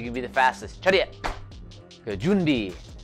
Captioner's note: foreign language